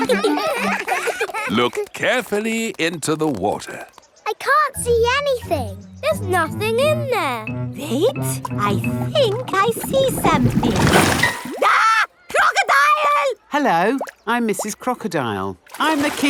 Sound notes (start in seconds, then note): 0.0 children laughing; 11.6 screams